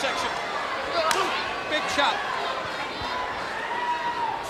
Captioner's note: chop striking; crowd cheering